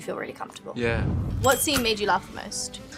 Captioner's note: air whooshing